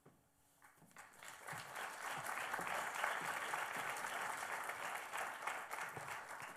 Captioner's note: applause